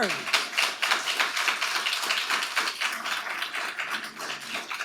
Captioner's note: audience applauding